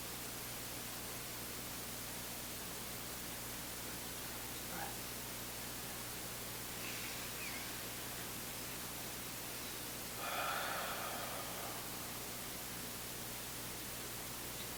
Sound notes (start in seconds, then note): 7.3 both exhaling; 7.3 both inhaling